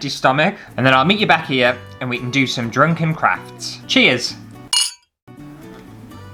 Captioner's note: clink